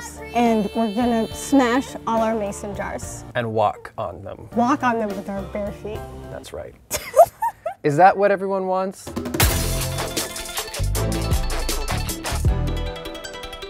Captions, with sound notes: and we're going to smash all our Mason jars. - And walk on them. - Walk on them with our bare feet. - That's right. (laughs) - Is that what everyone wants? (upbeat music)